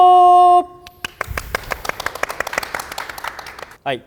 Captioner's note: many clapping